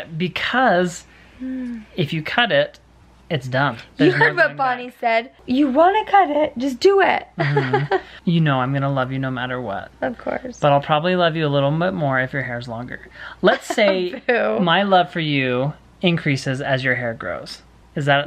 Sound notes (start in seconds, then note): 13.4 laughs